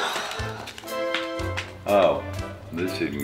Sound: Tina sighs

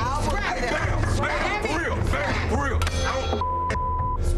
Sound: table crashing

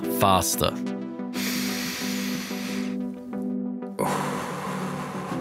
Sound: inhale, exhale

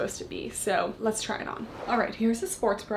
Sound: air whooshes

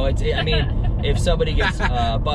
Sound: laughing

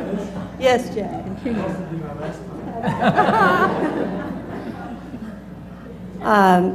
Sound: laugh; laugh

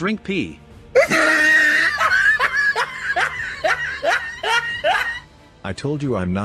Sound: laughs

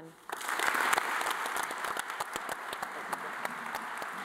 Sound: all applauding

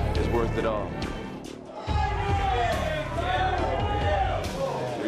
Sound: crowd clamoring

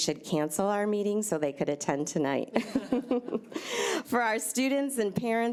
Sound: laughs

